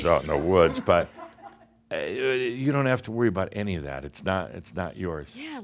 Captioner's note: a few chuckles